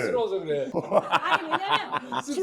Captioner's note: heh heh